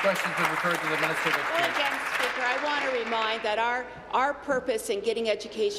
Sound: applause

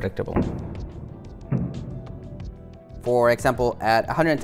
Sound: rig booms

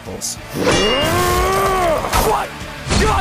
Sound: laughs; grunts

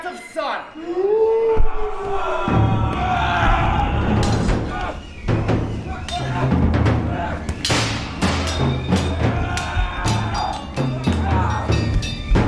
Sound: screaming, swords ping

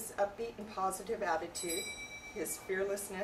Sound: bell ringing

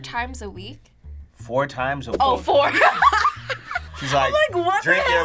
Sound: laughs

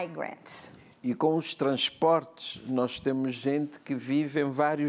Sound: speaking portuguese

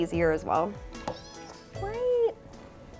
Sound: kitty meows

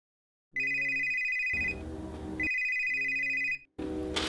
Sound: phone rings

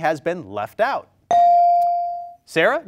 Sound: bell rings

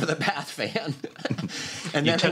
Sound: laughter

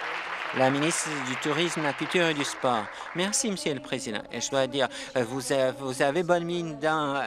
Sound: applause

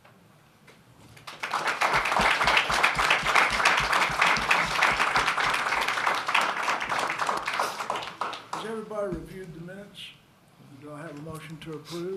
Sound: applause

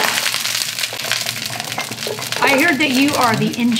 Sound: sizzling

